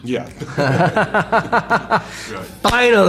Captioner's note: laugh